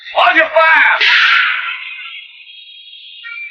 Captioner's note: gunshot